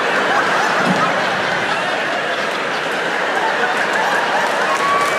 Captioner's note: audience laughs